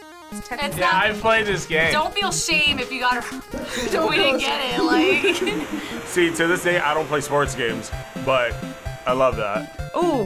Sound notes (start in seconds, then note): 3.6 laughs